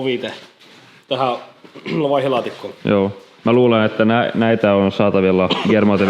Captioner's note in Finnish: rykäisee; rykäisy